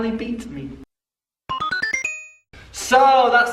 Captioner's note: computer noise